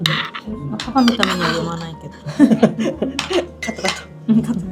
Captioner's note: laughs